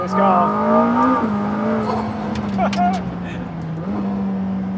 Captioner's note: engine revving